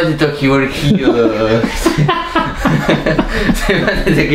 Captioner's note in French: rires